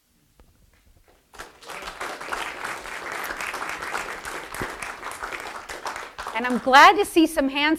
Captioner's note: applause